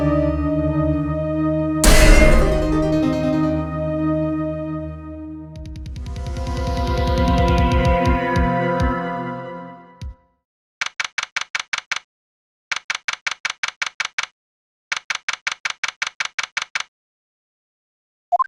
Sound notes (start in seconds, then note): 1.8 bonk